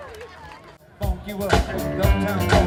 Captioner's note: applause